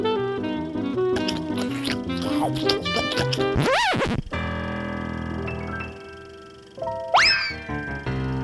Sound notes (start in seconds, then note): 1.2 chewing